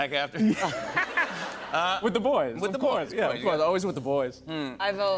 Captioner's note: laughs